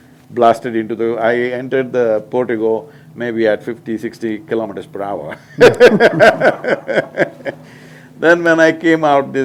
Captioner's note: laughs